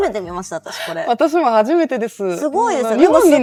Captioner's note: laughs